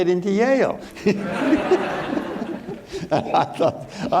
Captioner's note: all laughing